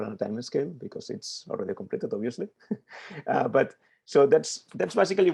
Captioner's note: chuckles